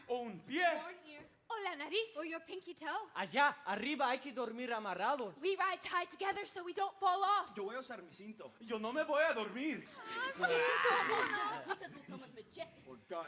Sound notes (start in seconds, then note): 0.2 speaking Spanish; 7.6 speaking Spanish; 9.9 performers chattering; 11.9 speaking Spanish